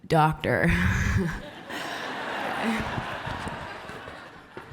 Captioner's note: applause and laughs